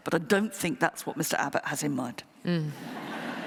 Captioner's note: laughter